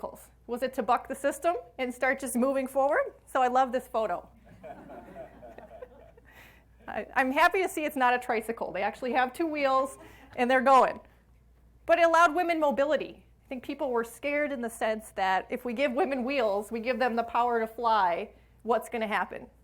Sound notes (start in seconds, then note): 4.4 audience laughs